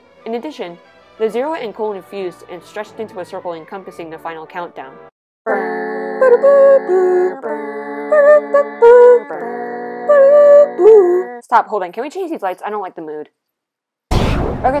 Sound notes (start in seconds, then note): 10.1 voice crack; 14.1 boom